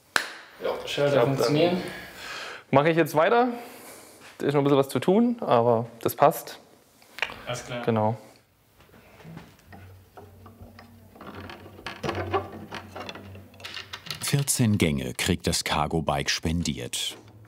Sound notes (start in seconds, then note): 11.6 creaking, squeaking